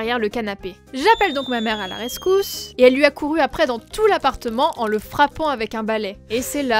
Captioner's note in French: Cris super aigus